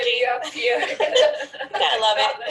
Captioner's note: laughing